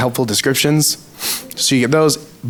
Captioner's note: sniffles